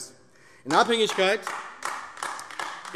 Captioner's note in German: Beifall AfD